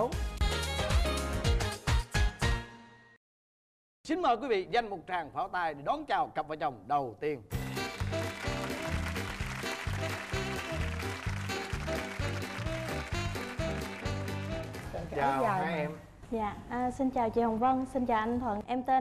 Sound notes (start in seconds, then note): 7.6 applause